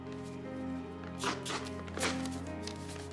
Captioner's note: tearing